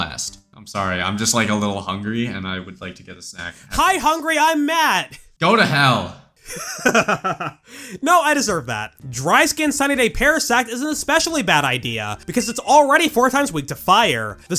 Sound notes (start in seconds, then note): 6.4 laughs